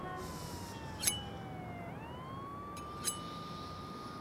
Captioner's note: siren blares; scraping